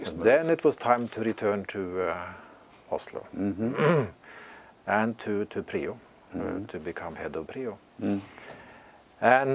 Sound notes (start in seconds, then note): 3.7 cough